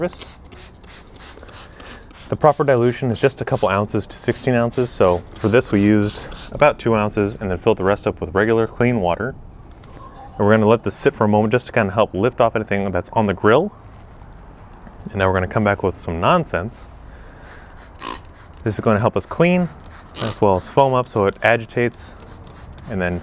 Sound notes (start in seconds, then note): 0.0 bottle sprays; 17.4 bottle sprays